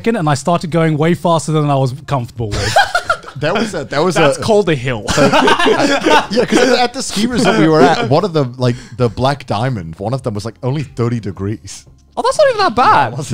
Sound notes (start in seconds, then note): 2.5 laughing; 5.0 all laughing